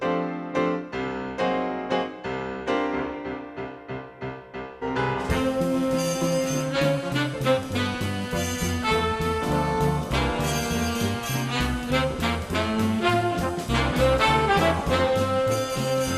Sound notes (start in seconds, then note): none